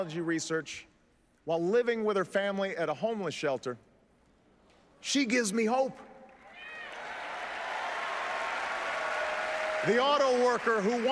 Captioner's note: applause